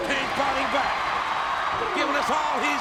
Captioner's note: audience cheers